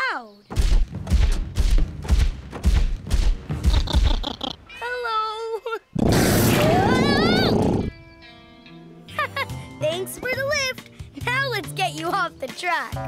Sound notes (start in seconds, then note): 0.6 stomping; 3.7 laughing; 5.9 roaring; 9.1 laughing